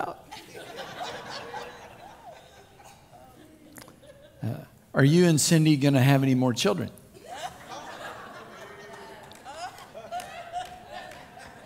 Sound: crowd Laughs

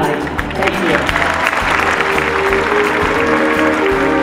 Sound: applause

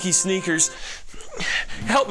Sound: weird ass fuckin' breathing

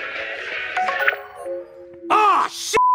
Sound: notification dings

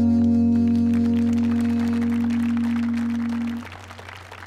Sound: audience applauding

